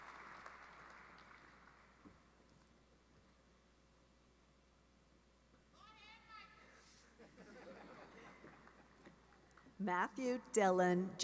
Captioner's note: applause